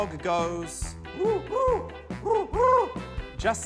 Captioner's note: hoots